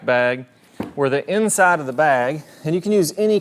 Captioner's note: bag thudding